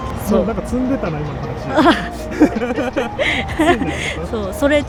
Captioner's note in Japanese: 笑い